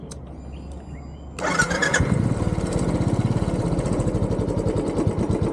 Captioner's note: engine starts